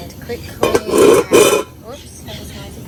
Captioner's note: lid scrapes loudly